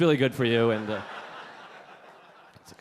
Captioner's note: audience laughing